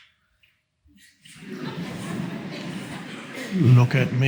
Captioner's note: audience laughs